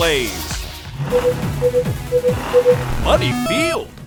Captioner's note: beeping